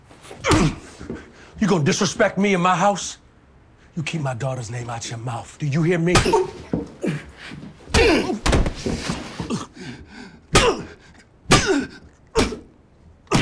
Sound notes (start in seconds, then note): 0.4 Marcus grunting; 6.2 Douda grunting; 6.2 Marcus groaning